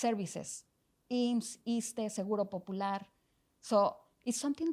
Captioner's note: speaking foreign language